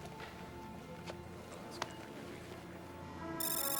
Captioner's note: footstep; alarm